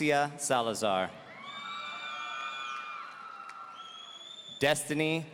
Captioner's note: audience cheering